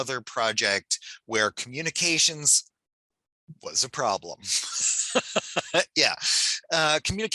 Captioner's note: laughs